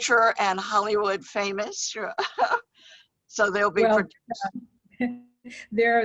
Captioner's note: laughs